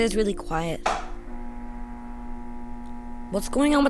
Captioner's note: electrical buzzing